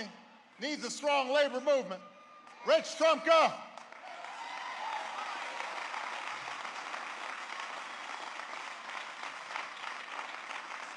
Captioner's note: applause